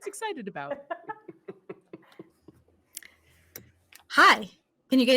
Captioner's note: people laughing